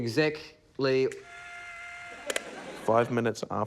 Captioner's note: whirring